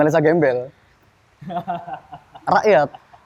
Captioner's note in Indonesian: ketawa